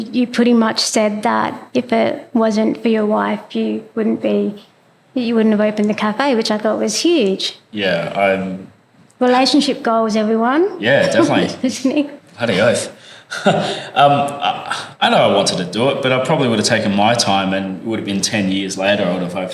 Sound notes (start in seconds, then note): 11.6 laugh